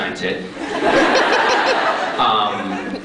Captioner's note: crowd laughs